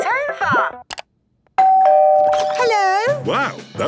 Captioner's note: doorbell ringing